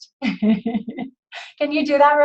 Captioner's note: laughs